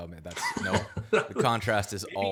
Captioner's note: laughs